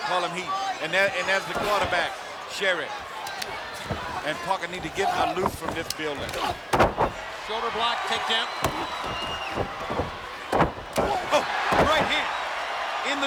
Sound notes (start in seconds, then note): 8.5 heavy thudding